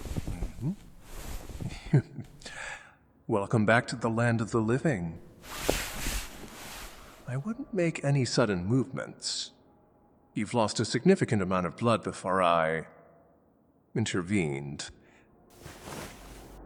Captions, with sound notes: (sound of rustling bed sheets) (soft laughter) Welcome back to the land of the living. (sound of listener abruptly sitting up) I wouldn't make any sudden movements. You’ve lost a significant amount of blood before I...intervened.